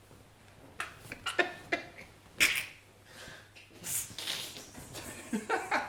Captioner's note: Dan and Phil snickering